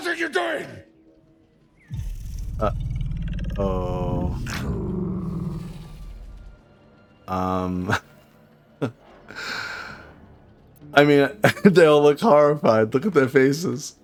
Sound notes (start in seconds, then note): 7.5 sigh